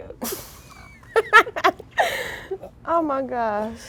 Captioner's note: girls laughing